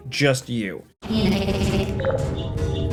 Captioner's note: GLaDOS stammering; computer chimes